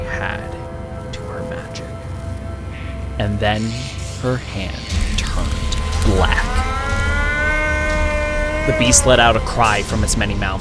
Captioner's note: moan of agony